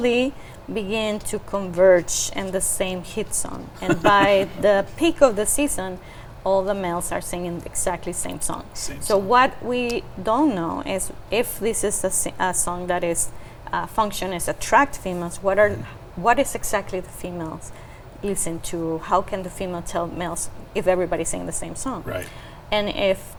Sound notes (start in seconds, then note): 3.7 chuckling